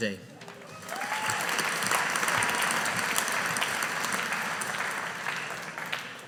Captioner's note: audience applauding